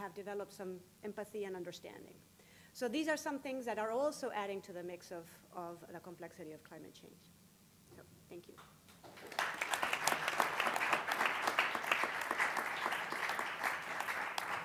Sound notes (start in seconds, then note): 11.8 applause